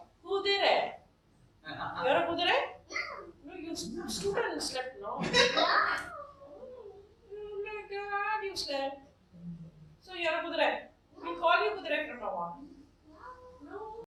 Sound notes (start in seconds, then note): 5.2 laughter